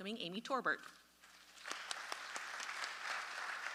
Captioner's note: audience applause